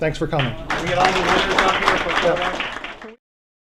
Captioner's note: applause